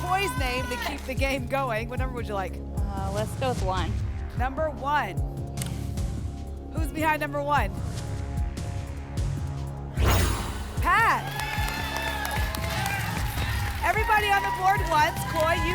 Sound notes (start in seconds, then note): 9.9 whoosh; 12.3 applause and cheering